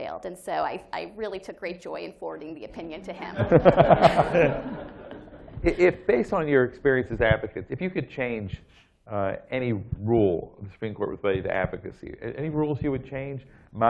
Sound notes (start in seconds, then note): 3.3 laughter